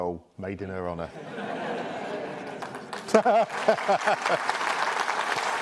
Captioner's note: audience laughing and applauding